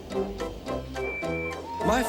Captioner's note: toot toot